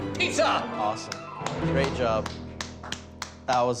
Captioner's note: clapping